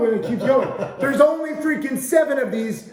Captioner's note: laughing